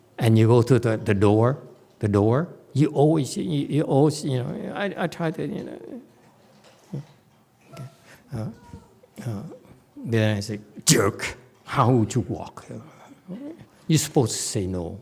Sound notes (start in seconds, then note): none